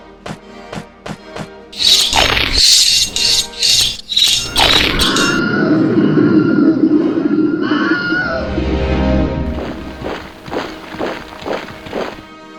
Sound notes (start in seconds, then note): 1.7 swords and spears clanging; 1.8 crunch, swords and spears clanging; 1.8 sword slash; 4.4 Crunch; 7.4 screaming, dematerializing; 9.5 marching